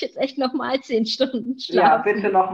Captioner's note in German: beide lachen